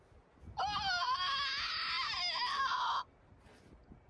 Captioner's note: creature shrieks